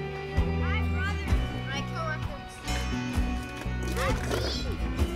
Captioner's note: kids chatting loudly